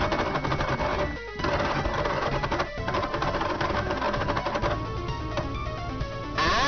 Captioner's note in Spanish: Más sonidos de hacker